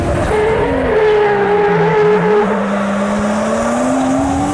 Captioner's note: tires squealing